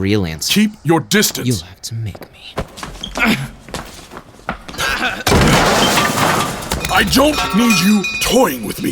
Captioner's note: firm, panting